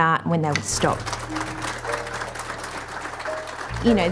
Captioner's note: applause